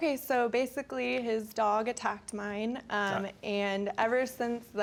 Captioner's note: scoffs